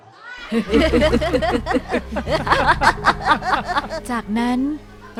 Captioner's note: gigglingly